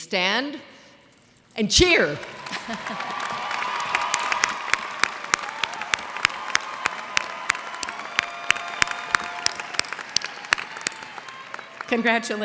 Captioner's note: cheers and applause